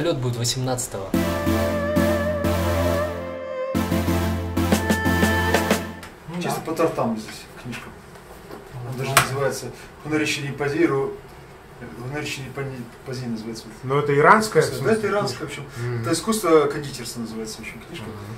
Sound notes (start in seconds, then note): 11.7 speaking Iranian